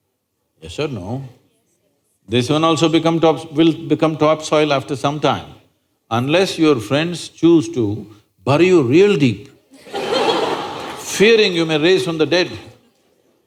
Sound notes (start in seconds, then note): 9.7 laughter